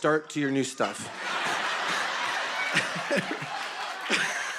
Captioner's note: laughter